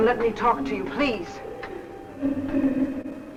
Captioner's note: faint muffled chatter